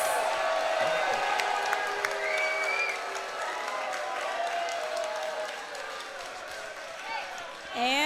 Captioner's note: crowd cheering